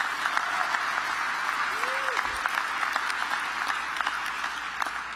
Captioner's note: applause